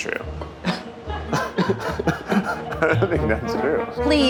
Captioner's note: laughs